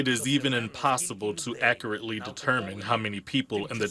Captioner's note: speaking non-english